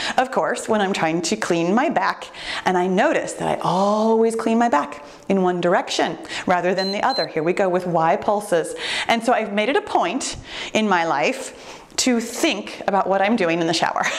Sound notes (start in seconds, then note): 6.7 timer beeps